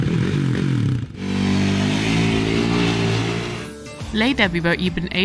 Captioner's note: vehicle engine whirring